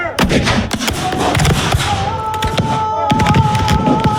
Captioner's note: gun shooting